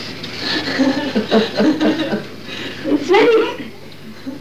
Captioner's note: laughing